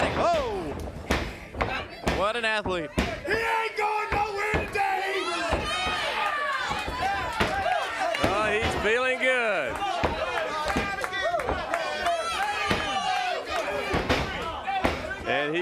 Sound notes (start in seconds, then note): 5.6 crowd cheering; 10.3 crowd cheering